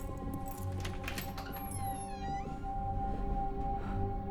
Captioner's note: keys jangling; door latch clicks; suspenseful music